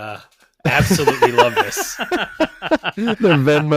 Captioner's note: laughing